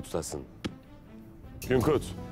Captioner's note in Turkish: El vurma sesi